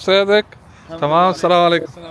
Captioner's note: Arabic